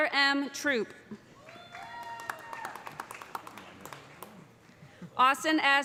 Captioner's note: cheers and applause